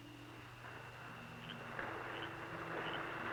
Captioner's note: frogs croaking